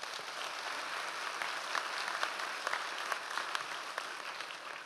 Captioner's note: audience applause